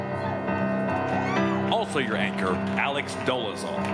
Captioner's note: crowd cheering